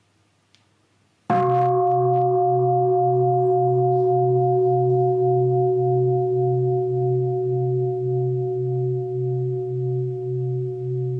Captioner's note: bell